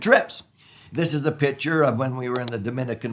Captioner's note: mouse clicks